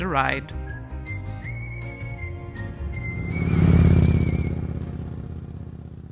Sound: lively music; motorbike roaring

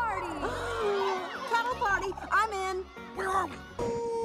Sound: gasp

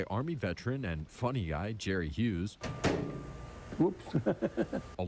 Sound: microwave

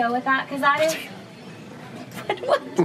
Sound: laughing

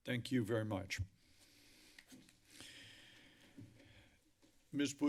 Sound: breathes heavily

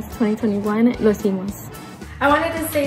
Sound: speaks in foreign language

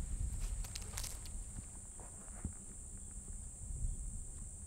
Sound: grass crunching

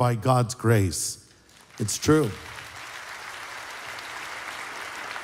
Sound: applause

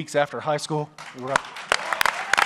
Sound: applause

